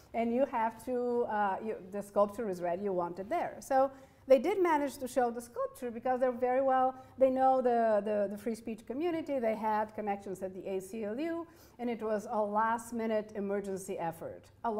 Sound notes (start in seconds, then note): none